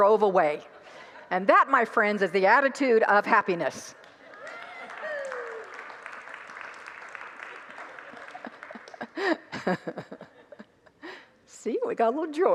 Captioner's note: congregants laugh and applaud